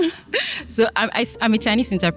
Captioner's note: laughing